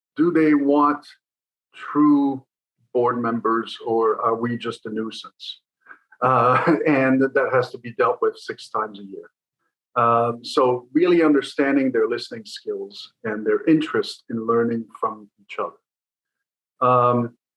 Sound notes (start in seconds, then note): 6.2 chuckle